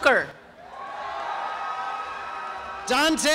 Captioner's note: cheering and applause